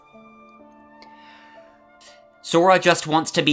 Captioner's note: inhale